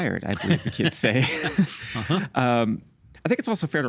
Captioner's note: both chuckling